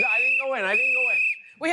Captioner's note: whistles